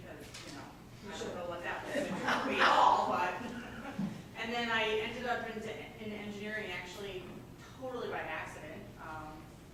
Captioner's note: laughing